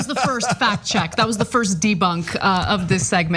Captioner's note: laugh